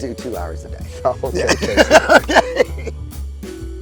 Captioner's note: laughs; gentle music